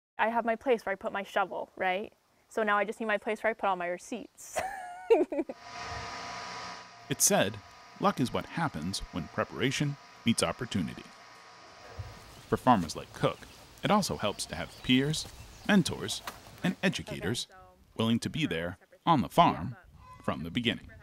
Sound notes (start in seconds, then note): 4.6 laughs; 6.2 device hums